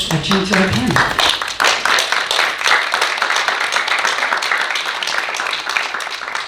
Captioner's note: audience applauding